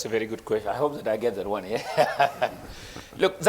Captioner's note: chuckling